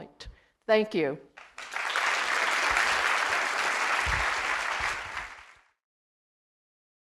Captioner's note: applause